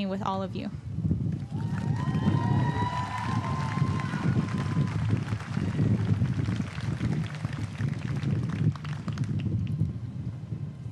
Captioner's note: applause